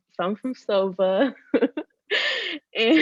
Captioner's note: laughing